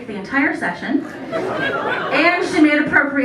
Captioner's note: laughter